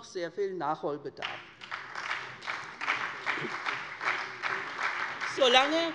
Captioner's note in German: Beifall bei der SPD